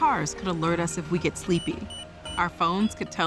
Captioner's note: beeping